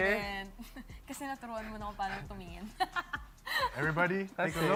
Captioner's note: laughs